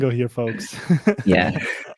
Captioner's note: group laughs